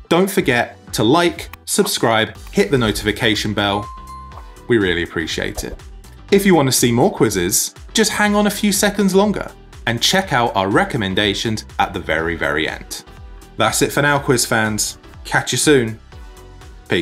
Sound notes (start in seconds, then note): 3.9 bell clinking